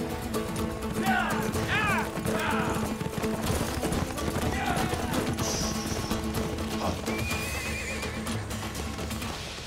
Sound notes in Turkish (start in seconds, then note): 0.6 Hep bir ağızdan; 6.7 At kişneme sesi